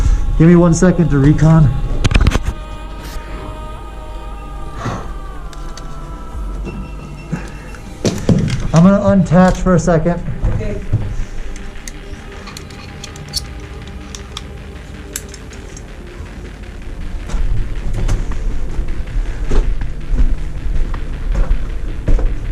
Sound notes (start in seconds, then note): 2.1 camera thumps; 2.4 heavy breathing; 5.3 thumping and clattering; 11.4 metal clicking; 11.5 metal unscrewing; 17.1 footsteps; 18.2 heavy breathing